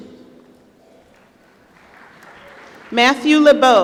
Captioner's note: applause